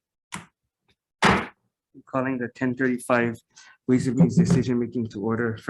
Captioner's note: gavel bangs